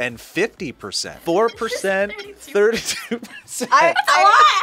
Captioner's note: laughs